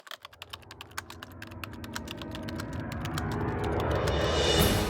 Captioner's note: typewriter sounds